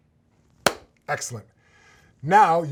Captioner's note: hands clap